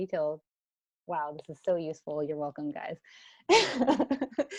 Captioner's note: laughs